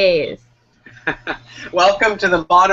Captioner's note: laughs